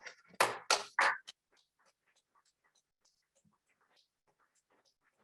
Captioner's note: applause